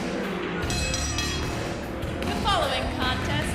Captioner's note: bell ringing